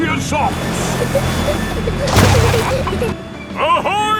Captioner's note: peppa and george giggling